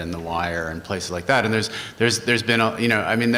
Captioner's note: stuttering